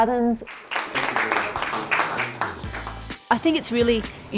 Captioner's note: association members clap